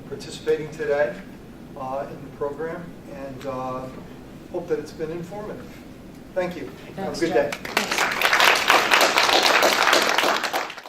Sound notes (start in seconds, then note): 7.4 applause